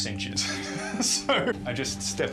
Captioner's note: laughs